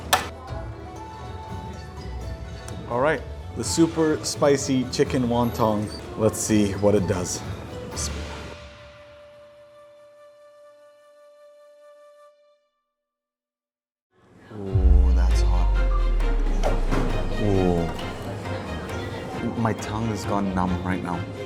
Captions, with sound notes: All right, the super spicy chicken wonton. Let's see what it does. (speaks Arabic) Oh, that is hot. (dramatic music) Oh. My tongue has gone numb right now.